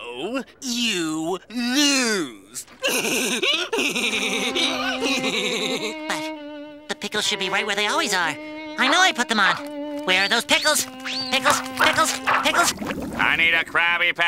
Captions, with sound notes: You lose! [laughing] But, the pickles should be right where they always are. I know I put them on! Where are those pickles? Pickles? Pickles? Pickles? I need a Krabby Patty.